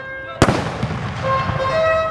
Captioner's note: trumpets blowing; gun fires; trumpets blowing